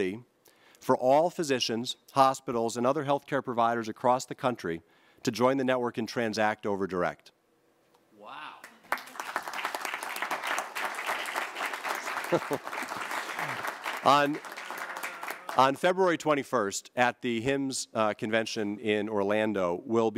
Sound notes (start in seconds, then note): 8.6 applause